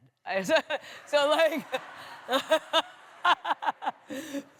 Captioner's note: laughter